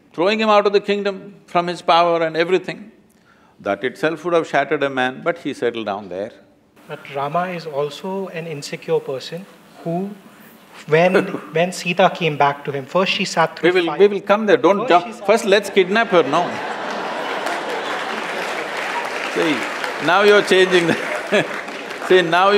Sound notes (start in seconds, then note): 11.1 Sadhguru Laughs; 17.6 laughter/Applause; 22.2 laughs